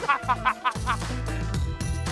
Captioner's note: laughter